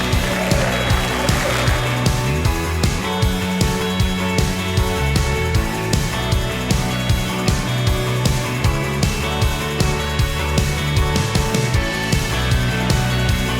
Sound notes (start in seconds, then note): 0.0 audience clapping; 3.1 upbeat music